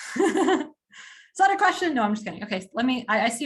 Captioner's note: laughs